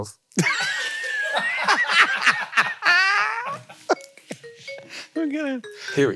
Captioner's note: crew laughing; Hank laughing